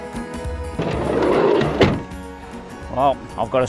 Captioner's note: door slides shut